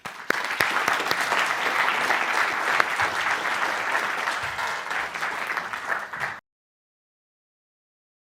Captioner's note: applause